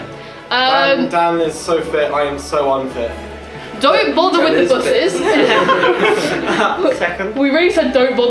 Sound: laughter

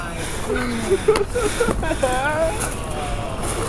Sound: crying

